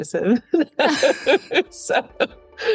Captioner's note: laughs